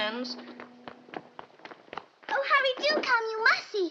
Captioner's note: footsteps running